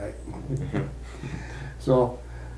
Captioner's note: chuckles